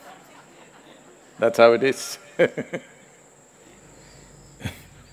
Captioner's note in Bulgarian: Смях